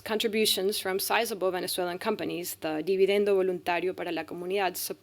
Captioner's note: speaking spanish